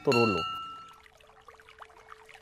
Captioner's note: Bell Sound